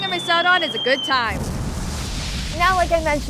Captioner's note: explosion